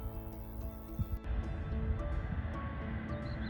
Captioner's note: distant train noise